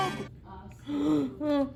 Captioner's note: gasps